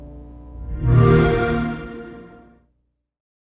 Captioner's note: xbox sound